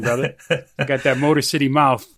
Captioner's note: laughing